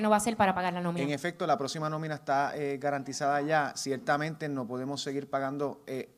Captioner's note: speaks in foreign language